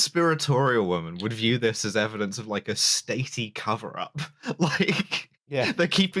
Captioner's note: laughing; laughs